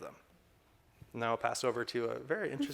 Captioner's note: all chuckling